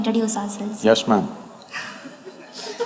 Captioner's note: few laugh